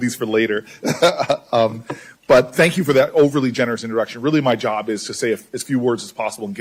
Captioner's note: laughter